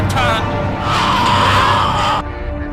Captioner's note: random SCREAMS and HYSTERIA